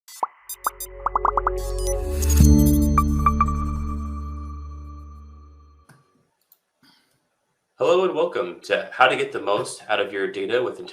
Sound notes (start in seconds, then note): 0.2 techy trills; 1.0 bubbles pop; 2.3 etheric tone